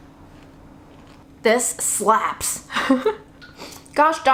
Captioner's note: laughs